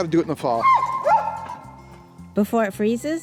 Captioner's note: labrador yipping